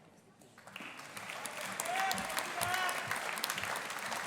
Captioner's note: audience applauding